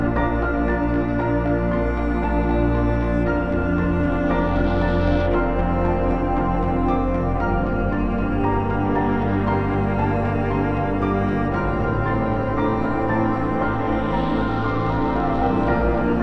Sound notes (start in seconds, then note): none